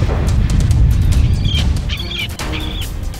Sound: birds squawking

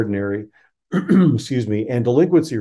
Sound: throat clearing

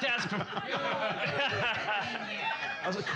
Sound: loudly laughing

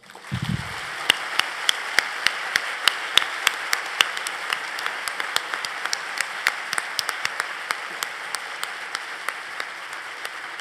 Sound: applause

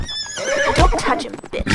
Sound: neighs; smacks

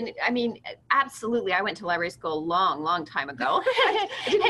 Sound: laughter

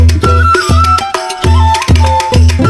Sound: Vỗ tay

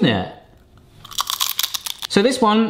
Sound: chip crunching

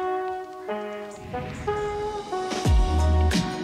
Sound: gentle music; transition whooshing; gentle music continues

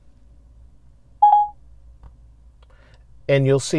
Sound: chime sound from the stereo

